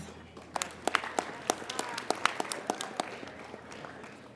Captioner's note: applauding